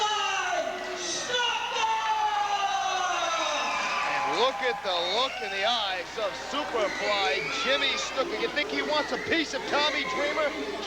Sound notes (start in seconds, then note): 1.9 crowd cheering